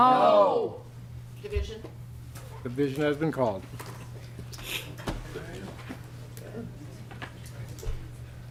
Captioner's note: chorus of ayes